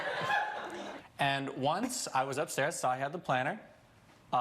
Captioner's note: audience laughs